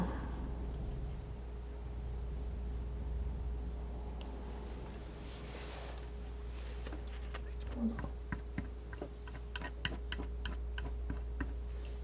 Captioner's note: tapping